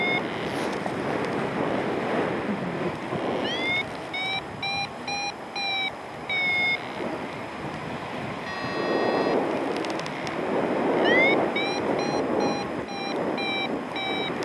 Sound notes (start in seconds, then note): 0.1 wire reeling; 4.0 alarm continues; 8.2 low pitch alarm sounds; 11.0 alarm intensifies